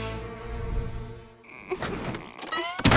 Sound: stammering

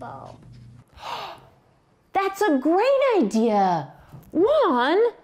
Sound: gasps

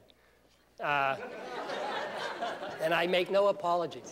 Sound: laughter

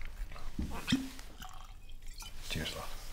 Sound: uncorking

